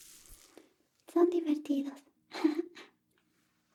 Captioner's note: laughs